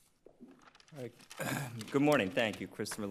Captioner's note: throat clearing